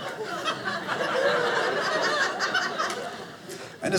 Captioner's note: audience laughing